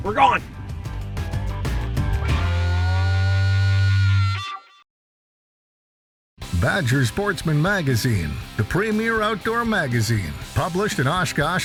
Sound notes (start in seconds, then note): 2.0 rock music; 6.4 voiceover